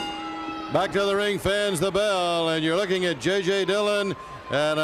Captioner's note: bell ringing